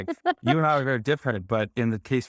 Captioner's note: laughing